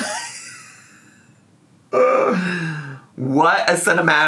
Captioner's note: laughs